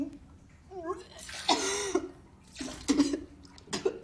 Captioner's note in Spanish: Toses